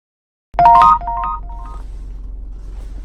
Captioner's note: text sound; dark music